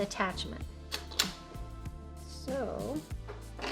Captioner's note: attachment clicks